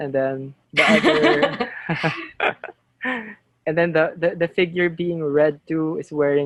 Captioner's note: laughter